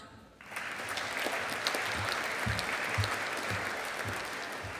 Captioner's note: audience applauding